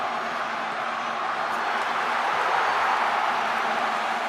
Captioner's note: crowd roaring